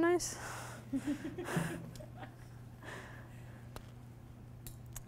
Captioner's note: audience laughing